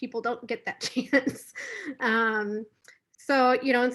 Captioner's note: laughs